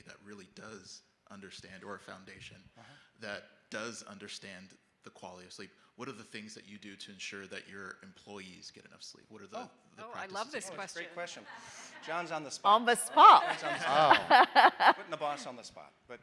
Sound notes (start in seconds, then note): 10.3 people chattering; 14.3 all laughing